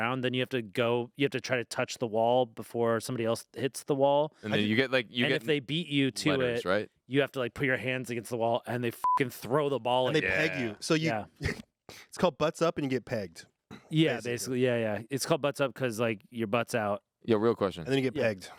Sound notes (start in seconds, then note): 9.0 beep